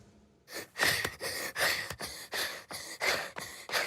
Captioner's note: boy breathing heavily